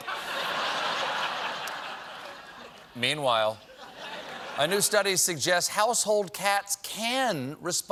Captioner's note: laughter